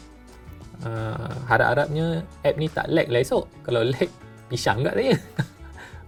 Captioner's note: nervous laughter